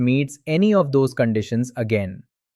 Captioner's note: thoughtful